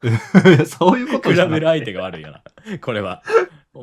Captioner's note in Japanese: 笑い